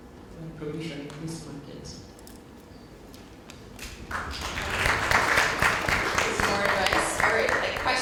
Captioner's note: applause